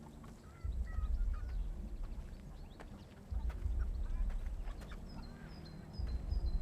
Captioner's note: birds chirping; gentle tense music